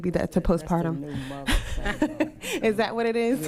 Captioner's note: laughing